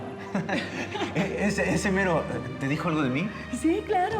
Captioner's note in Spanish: risas